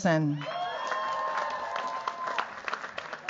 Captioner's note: cheers, applause